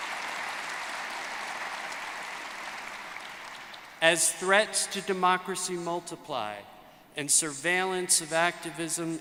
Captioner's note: cheers and applause; applause